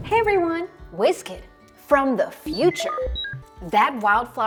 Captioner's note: electronic beeping